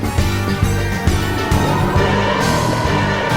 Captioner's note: swamp monster growls